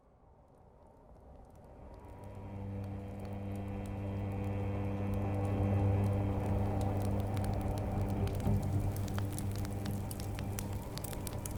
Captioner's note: fire crackling; ominous music